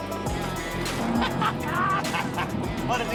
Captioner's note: man laughing